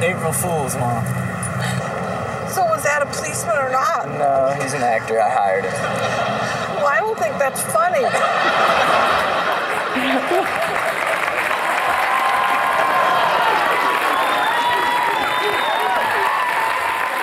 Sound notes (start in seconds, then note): 7.7 audience laughs; 11.3 audience cheers